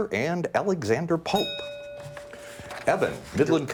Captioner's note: bell dings